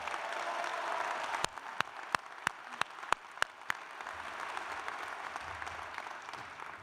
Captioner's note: cheers and applause